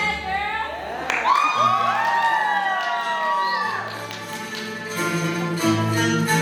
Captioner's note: applause